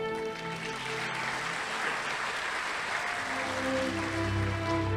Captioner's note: audience applauding